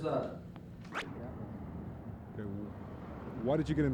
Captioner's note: street noise